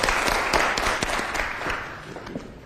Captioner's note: applause